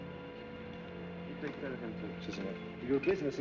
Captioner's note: in spanish